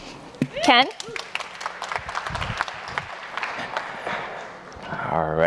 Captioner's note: audience applauding